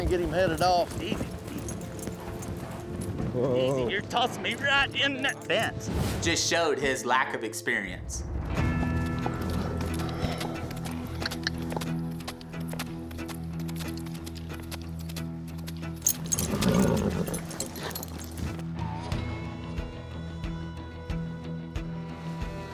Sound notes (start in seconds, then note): 8.7 suspense music; 16.0 horse blusters; 20.3 suspense music